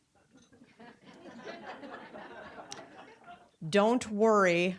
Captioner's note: audience laughing